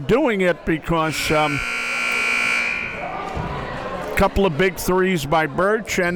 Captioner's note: buzzer blares